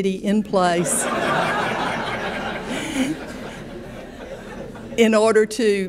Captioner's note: audience laughing